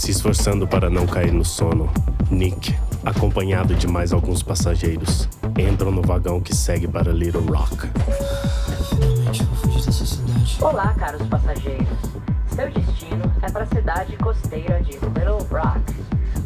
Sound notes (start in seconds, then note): 8.2 subway door opening